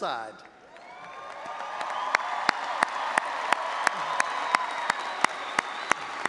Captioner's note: all applauding and audience cheering